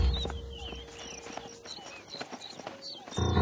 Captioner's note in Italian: cinguettii